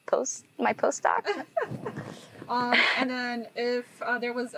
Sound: host laughing

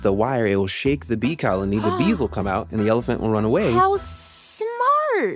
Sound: gasps

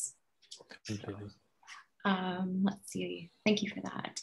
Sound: mumbles silently

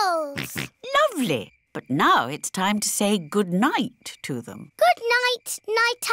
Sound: snorts

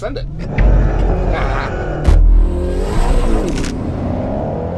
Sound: engine revving

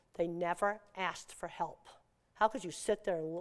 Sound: none

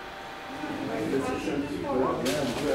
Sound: distant conversations

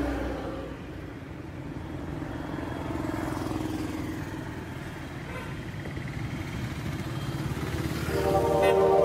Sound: Traffic

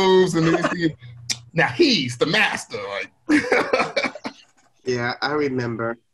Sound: laughs

